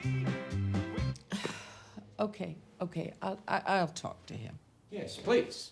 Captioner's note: sighs